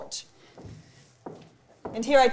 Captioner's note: footsteps clomping